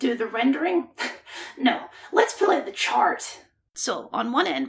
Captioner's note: scoff